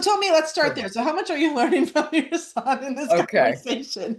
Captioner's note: laughs